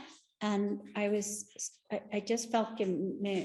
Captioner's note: speaking Spanish